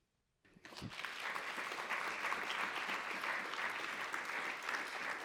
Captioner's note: audience applauding